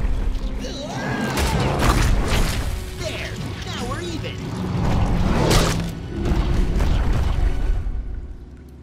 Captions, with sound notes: Waah! There, now we're even. [snapping]